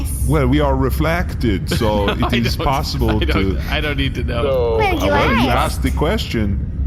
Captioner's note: laughing